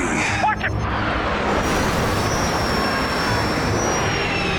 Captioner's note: loud rumbling